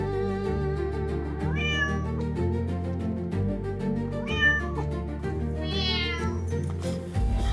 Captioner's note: cats meowing